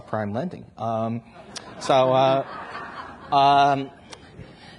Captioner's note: audience laughs